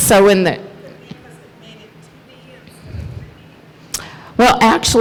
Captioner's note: murmurs